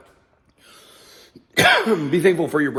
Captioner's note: coughs